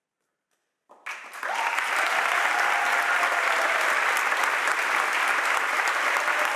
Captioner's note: audience applauds and cheers